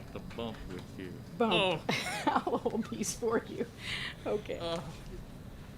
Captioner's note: laughs